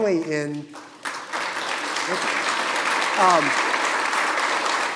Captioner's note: audience applauding